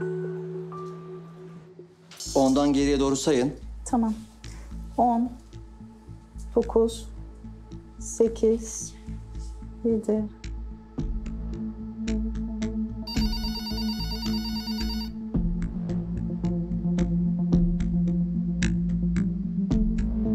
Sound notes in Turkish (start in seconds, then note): 13.0 Telefon çalıyor; 17.6 Gerilim müziği